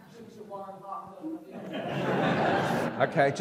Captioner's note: audience laughs